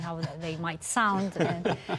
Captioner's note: laughter